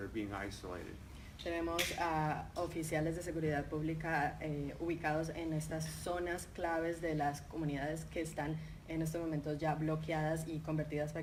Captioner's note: speaking in Spanish